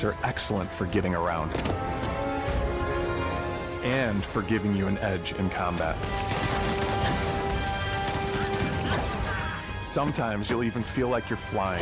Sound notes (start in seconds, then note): 8.9 gun spattering